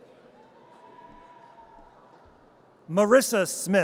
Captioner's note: audience cheers